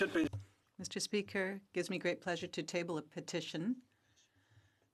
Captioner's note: speaking French